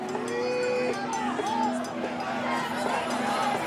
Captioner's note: crowd chants